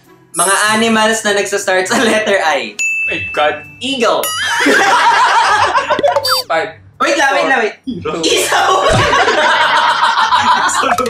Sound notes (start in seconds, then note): 4.8 laughs